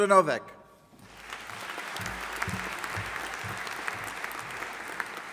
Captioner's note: audience applauding